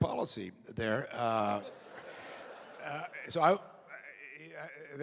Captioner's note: laughter